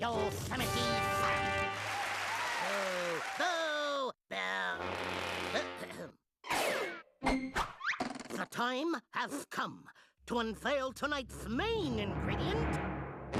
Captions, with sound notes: YOSEMITE SAM. [crowd cheering] [booing] [clearing throat] THE TIME HAS COME TO UNVEIL TONIGHT'S MAIN INGREDIENT.